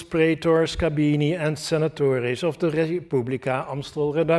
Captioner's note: speaking latin